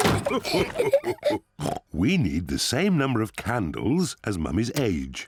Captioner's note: all laugh; oinks